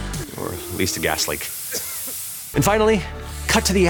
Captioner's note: person coughs